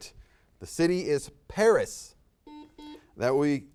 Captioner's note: buzzer beeps